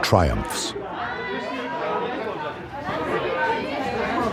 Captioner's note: customers chattering